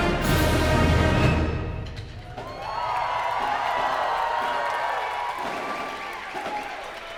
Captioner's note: cheers and applause